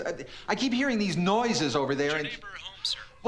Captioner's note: on phone